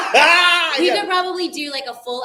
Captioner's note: laughing